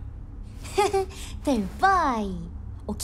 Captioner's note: laughs